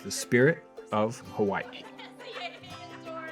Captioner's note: laughter